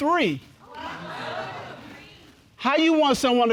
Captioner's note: audience exclaims